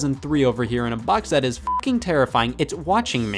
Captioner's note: beep